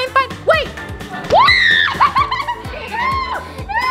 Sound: screaming

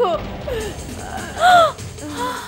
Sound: gasps

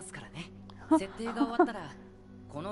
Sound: laughs

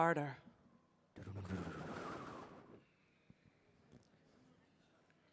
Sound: wind and thunder sound mimics

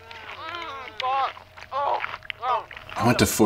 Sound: grunting

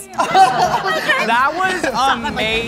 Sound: laughing

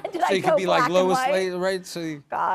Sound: laughs

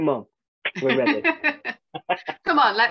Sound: laughs

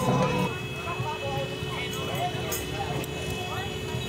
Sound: car honking

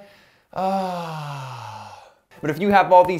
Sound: sighs

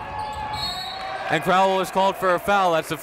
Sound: whistle

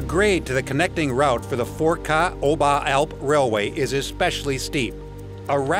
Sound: foreign language

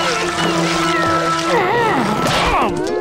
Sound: grunting

